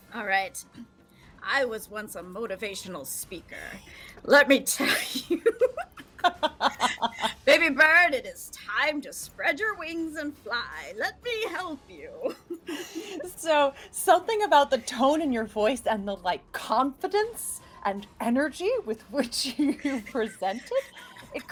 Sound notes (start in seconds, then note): 4.8 laughing